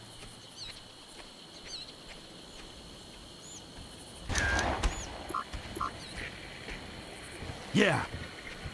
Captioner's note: birds chirping